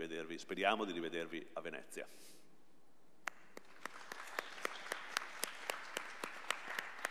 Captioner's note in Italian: Applauso